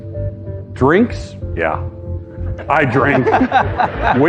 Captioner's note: laughter